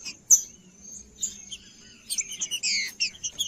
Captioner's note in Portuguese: trinca ferro cantando